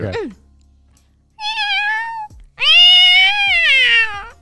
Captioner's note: meowing